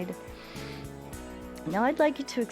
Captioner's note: inhales and exhales